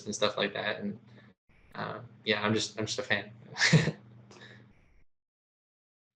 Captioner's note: laughs